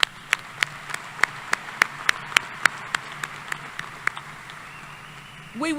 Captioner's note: applause